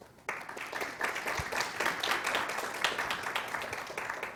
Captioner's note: audience applauding